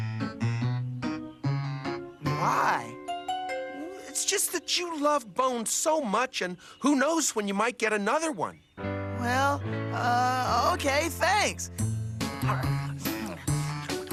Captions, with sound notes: [YAWNING] RED LIGHT. GREEN LIGHT. WHOA!